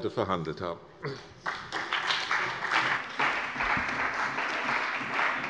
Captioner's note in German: Beifall bei der CDU und dem BÜNDNIS 90/DIE GRÜNEN